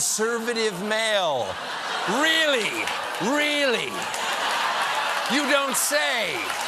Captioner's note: laughter